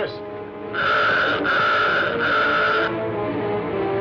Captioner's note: alarm sounds